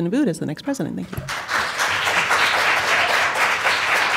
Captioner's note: applause